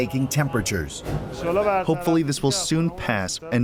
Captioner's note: through translator